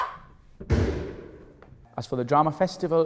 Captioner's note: gun shot